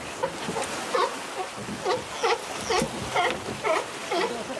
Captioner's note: sea lions barking